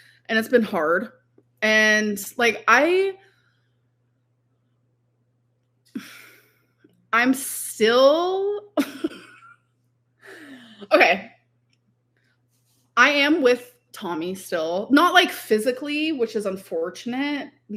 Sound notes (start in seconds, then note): 8.7 laughing